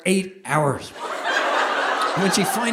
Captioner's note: audience laughing